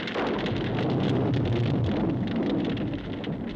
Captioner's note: thunder clapping